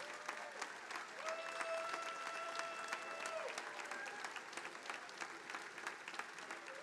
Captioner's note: attendees applauding; attendees applauding